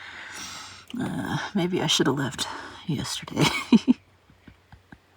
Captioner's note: laughs